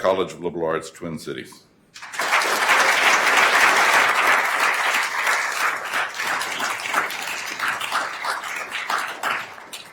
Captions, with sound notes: College of Liberal Arts, Twin Cities. (attendees applauding)